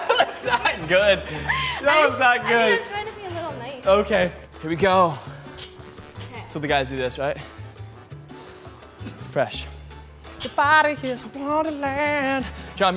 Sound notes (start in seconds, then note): 7.4 sniffs